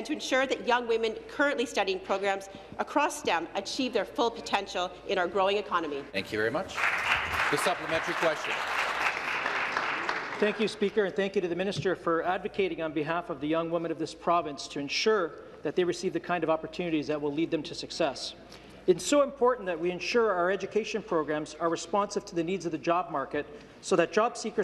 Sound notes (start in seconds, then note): 10.5 applause